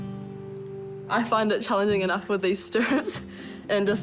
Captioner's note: chuckles